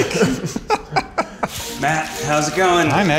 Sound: laughs

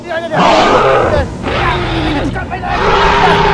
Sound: spinosaurus Growls

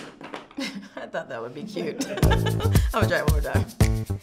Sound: pencil clattering; laughs

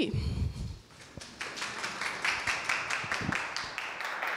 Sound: applause

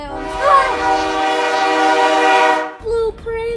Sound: train whistle blares

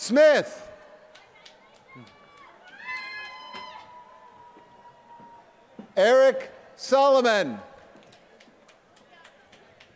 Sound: applause

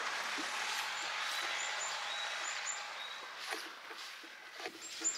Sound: bird sounds

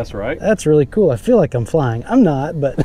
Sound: chuckling

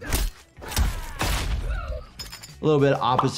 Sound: gun firing

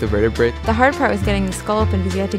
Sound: voiceover

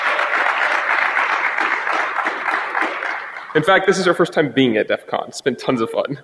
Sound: applause

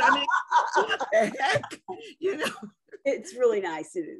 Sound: laughing; laughs

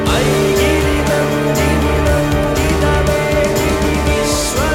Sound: chants

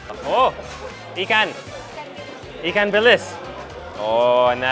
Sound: speaking in foreign language

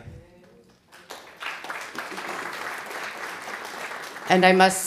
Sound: audience clapping

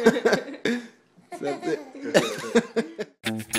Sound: laughing; upbeat music

